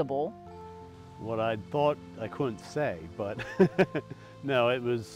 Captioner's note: laughs